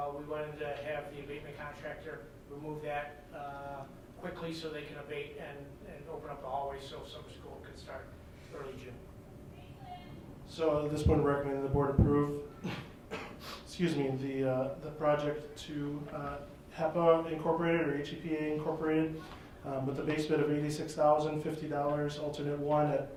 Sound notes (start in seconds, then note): 12.5 coughs